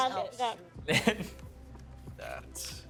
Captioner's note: laughing